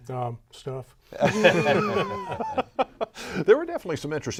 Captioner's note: laughing